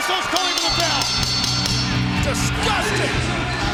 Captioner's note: bell ringing